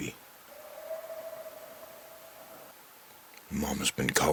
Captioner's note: coyotes yelping